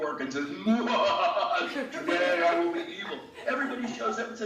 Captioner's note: evil laughter